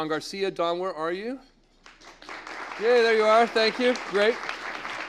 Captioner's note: applause